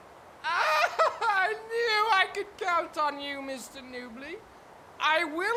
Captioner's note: laughs